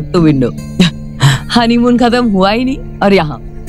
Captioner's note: Sheena chuckles